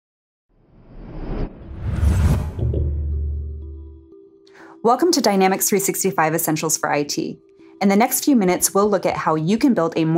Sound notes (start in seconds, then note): 0.6 whooshing; 0.8 gentle music